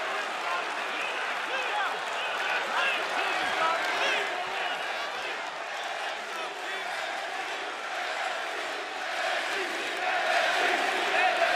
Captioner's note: crowd cheering